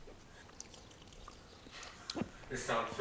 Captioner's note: slurping